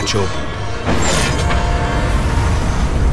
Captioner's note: meta clunking